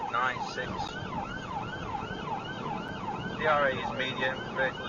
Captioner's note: police car siren